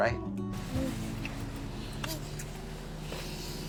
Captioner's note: makeout noises